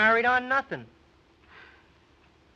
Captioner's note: sighs